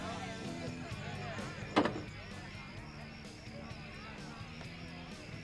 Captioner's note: door closes